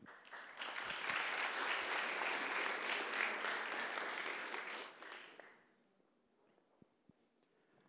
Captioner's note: applause